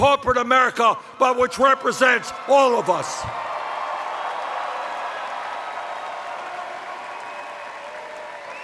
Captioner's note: cheers